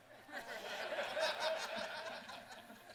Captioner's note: laughter